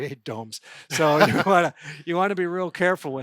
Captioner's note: laughing